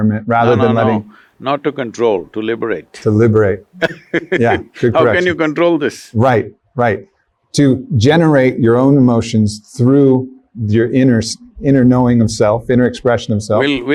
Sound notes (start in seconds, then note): 3.6 laughs